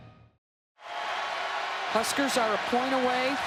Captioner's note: crowd cheering